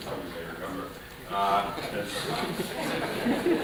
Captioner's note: laughter